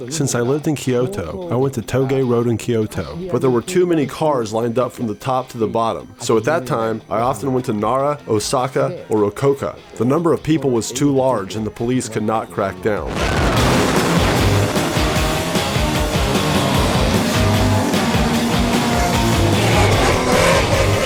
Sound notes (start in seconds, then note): 13.0 car engine roaring; 13.7 upbeat music